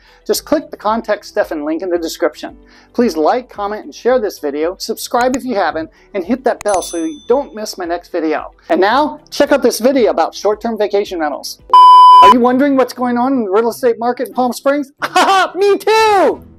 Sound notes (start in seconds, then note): 11.7 loud beeping; 15.0 laughing